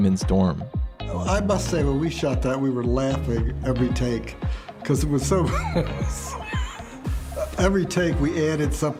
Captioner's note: laughs